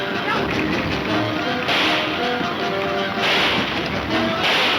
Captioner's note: gunshots banging